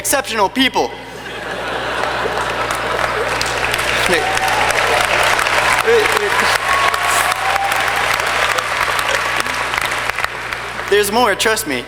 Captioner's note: laughter and Clapping